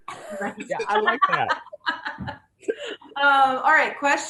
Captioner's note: panelists laughs